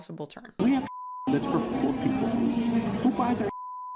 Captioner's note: beep